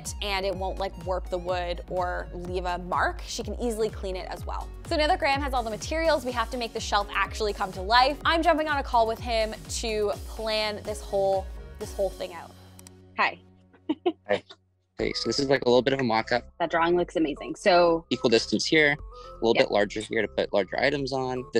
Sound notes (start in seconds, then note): 13.8 laughs